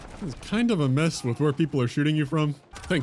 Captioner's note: none